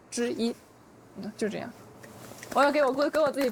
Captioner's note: soft applause